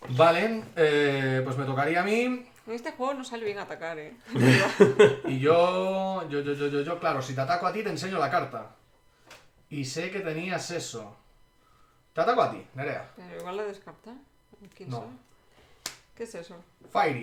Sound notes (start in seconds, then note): 4.2 laughs